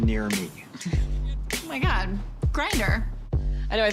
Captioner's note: scoffs